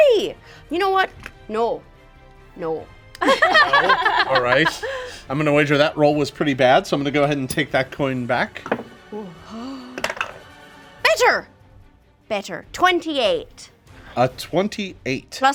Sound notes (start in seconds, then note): 0.0 dice roll; 3.2 group laughs; 10.0 dice roll